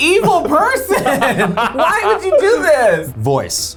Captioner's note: laughs